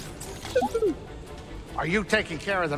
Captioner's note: bd-1 chirps